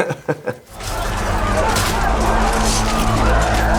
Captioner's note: laughing; shouting